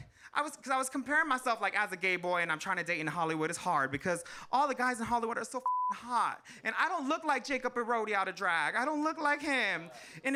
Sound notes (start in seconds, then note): 5.6 beep